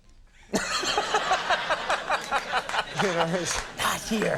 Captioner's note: crowd laughs